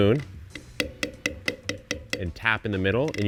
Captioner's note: spoon tapping